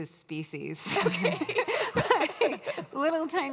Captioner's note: all laughing